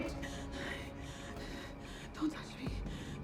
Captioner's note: heavy breathing